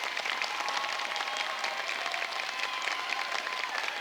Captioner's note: cheers and applause